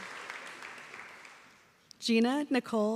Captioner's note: applause